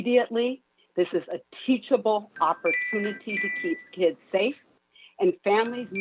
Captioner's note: chime